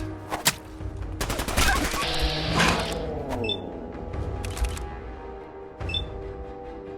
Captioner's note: combatant shouting; gunshots crack; equipment whirs and beeps